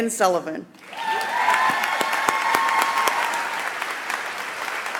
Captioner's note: audience applauds